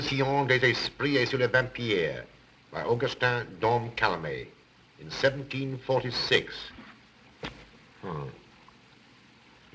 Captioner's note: non-english speech